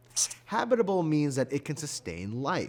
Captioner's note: highlighter squeaking